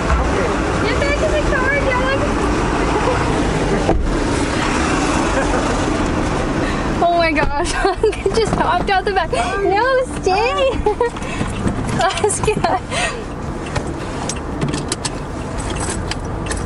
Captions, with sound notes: Okay. Get back in the car dog. Oh my gosh, Laska just hopped out the back. No, stay. Laska! [Laughs]